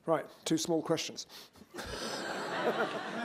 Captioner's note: laughter